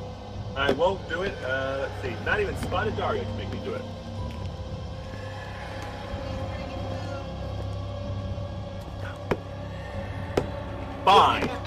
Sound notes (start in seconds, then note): 4.5 quietly